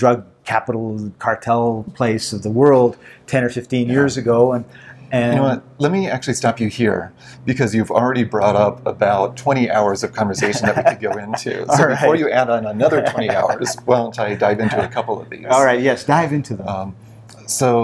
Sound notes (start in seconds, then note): 10.3 laughs